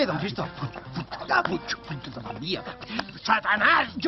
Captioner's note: grumbles